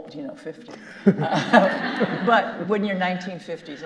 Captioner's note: all laughing